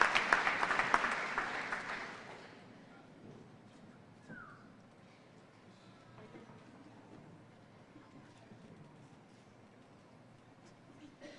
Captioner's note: applause